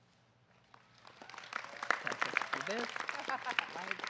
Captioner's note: audience clapping